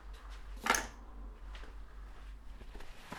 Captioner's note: key rattles